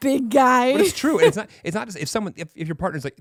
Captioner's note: laughing